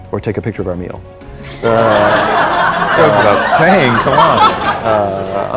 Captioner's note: laughter